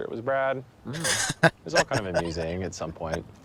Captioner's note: laughing